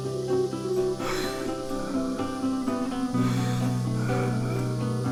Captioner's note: Johnny gasping